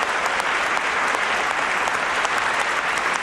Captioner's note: applause